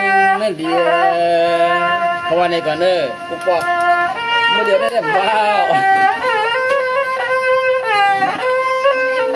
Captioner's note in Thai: ปรบมือ